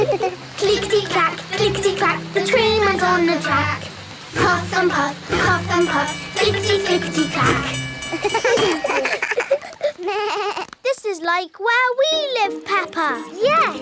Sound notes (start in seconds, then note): 0.0 laughing; 8.0 all laugh